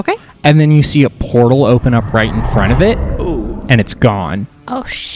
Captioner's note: magical sound effect